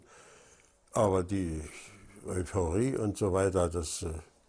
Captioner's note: German spoken audio